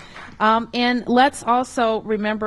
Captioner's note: applause